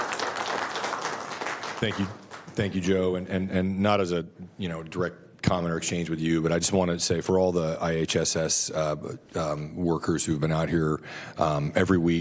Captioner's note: applause